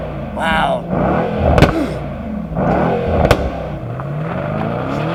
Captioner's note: engine revs